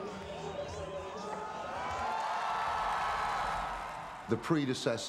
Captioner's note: crowed cheering